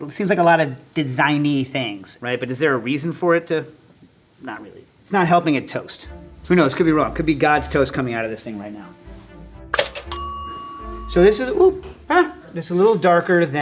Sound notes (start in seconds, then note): 9.8 bell pings